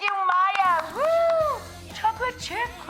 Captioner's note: cheering; upbeat pop music begins